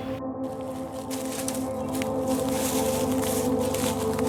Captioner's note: footsteps in leaves